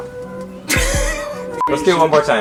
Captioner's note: laughing